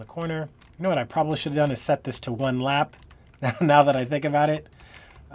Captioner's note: laughing